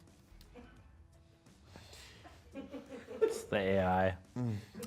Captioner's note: crew laughs